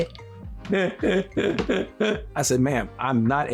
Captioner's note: imitates Eddie Murphy's laugh